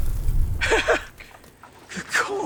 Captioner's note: Anderson chuckling